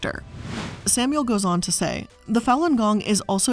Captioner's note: air whooshing